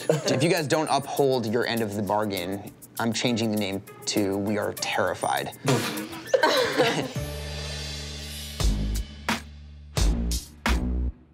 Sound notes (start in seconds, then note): 5.6 laughing; 8.4 dramatic music